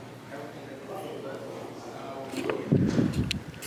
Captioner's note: crowd chattering